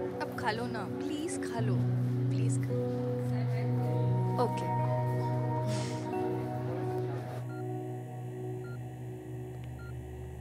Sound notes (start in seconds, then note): 5.8 Chuckles; 7.6 Ventilator beeping